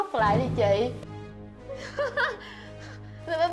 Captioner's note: laughing